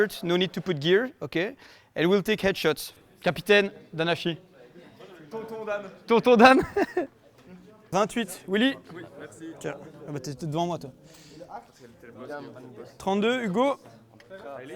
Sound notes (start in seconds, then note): 6.6 chuckle